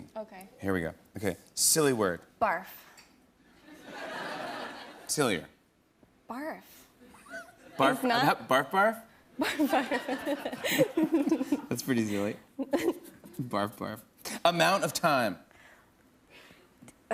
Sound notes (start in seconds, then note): 3.6 laughter; 9.4 laughs